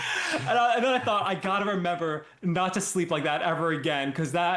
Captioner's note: laughing